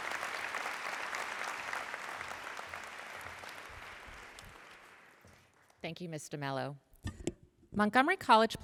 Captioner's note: applause